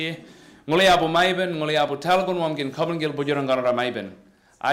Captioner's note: speaks indigenous language